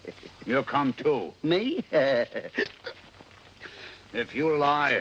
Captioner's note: chuckling